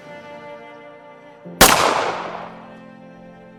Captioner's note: gunshot ringing